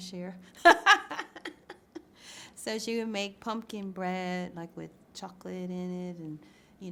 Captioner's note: laughs